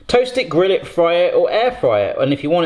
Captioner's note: none